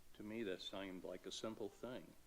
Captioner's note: none